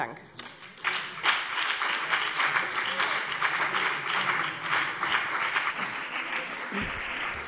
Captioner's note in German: Beifall BÜNDNIS 90/DIE GRÜNEN und vereinzelt CDU